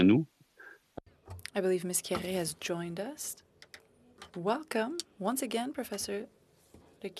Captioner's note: speaking French